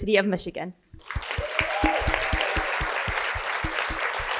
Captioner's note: applause